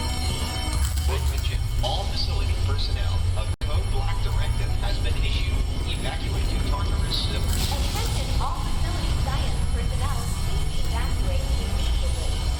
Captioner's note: alarms & Bells; TikTok Voice; power restoring